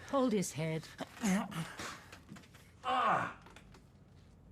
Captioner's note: John groaning